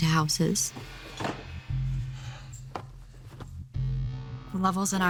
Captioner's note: sighs